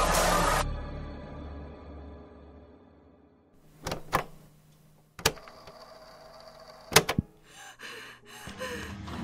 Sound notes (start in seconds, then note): 5.1 clicks cassette tape; 5.2 tape rolls; 6.7 clicks VHS player; 8.0 LUNA starts panting